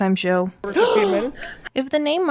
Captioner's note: gasp